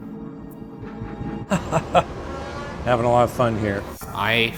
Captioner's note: laughs